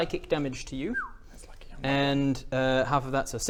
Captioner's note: whistle